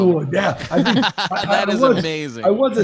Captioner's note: laughs